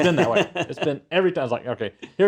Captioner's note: laugh